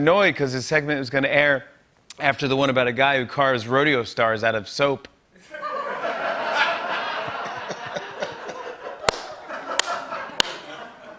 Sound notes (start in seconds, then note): 5.4 laughter